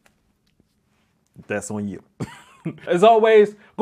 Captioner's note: laughs